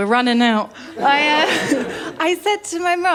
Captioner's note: laughter